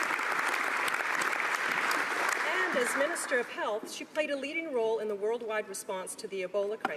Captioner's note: applause